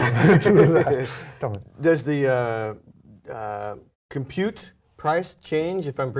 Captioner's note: laugh